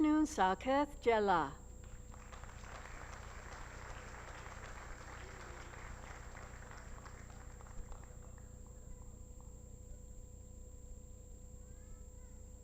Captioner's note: applause